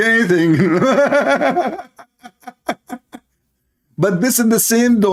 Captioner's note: Ketawa